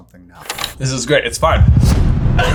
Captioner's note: reel clicking; laughing